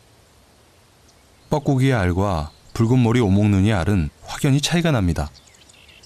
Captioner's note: cuckoo